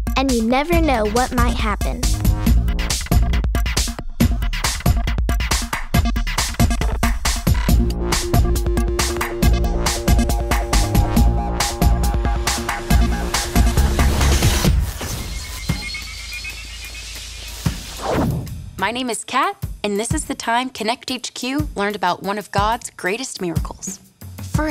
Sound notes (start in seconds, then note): 14.4 electronic whirring